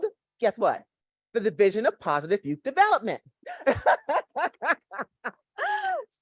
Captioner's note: laughs